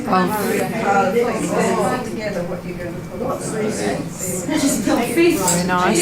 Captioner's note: participant chatter